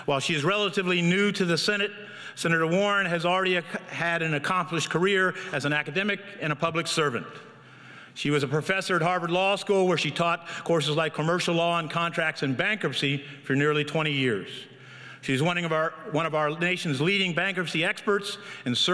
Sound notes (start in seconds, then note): none